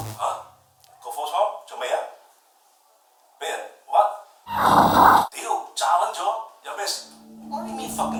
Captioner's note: Cantonese